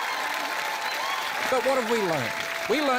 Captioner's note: cheering, applause